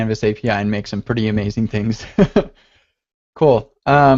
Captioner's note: laughs